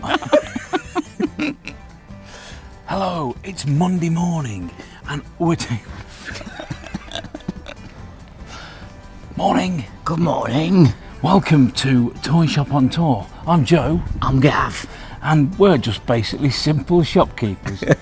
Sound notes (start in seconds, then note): 0.0 chuckle; 5.7 chuckle